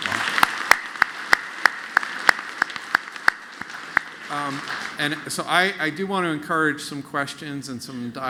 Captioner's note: applause